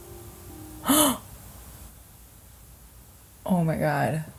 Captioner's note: gasps